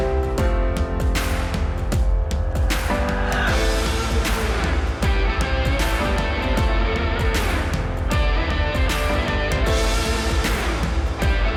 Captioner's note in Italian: Applauso